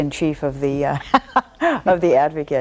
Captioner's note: laughs